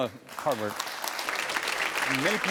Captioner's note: audience applauding